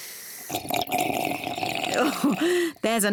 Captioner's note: slurps